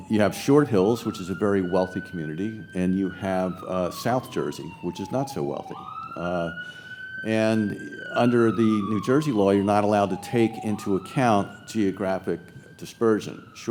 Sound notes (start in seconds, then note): none